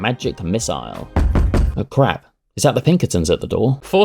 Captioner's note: knock knock knock